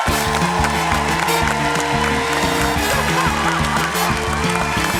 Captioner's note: cheering, applause